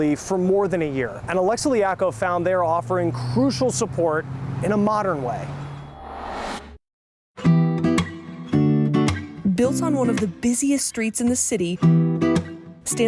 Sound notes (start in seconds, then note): 5.7 graphic whirring; 7.4 light music